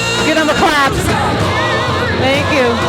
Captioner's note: audience clapping